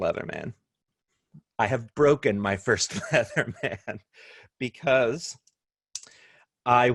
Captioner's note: laughter